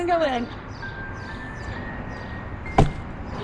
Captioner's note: bird chirping